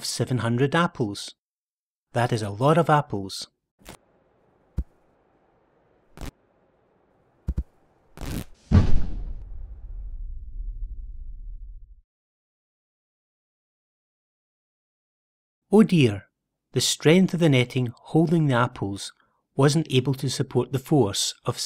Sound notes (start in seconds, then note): 8.2 ripping of net followed by loud bang